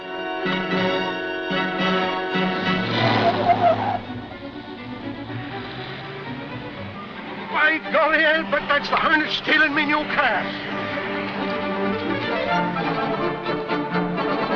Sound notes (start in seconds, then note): 3.2 tires squealing; 11.7 dramatic music